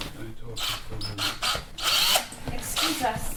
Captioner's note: whispering